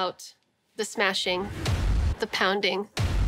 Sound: thud

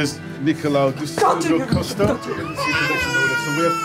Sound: baby crying

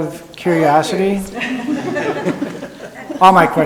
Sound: people laughing

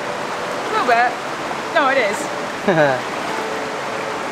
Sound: laughs

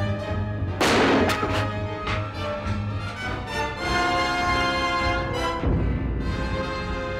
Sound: dramatic music; gun fires

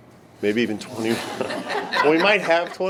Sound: laughing

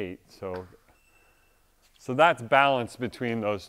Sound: meter beeps

